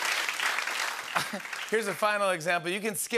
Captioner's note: laughs